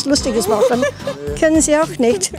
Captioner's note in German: Lachen